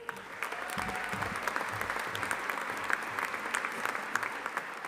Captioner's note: audience applauding